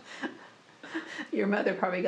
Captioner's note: laughter